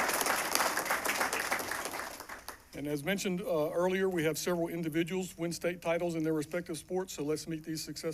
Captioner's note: applause